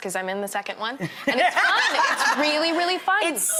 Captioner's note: laughs